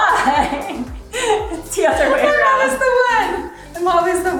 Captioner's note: laughing